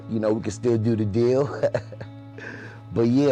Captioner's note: laughter